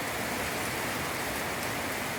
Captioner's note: heavy rain